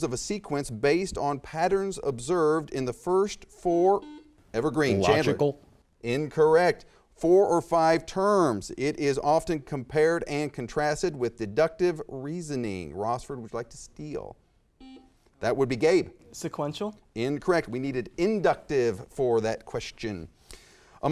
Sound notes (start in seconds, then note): 4.0 buzzer chiming; 14.8 buzzer chiming